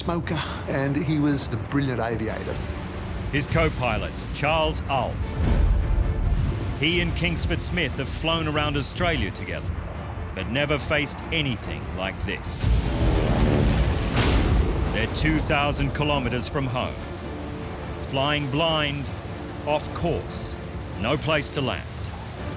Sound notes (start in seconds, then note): 5.4 uplifting music continues; 12.6 rain and thunder